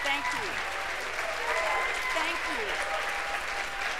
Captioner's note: cheers and applause